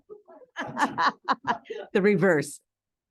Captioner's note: group laughing